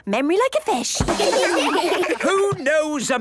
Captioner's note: children laugh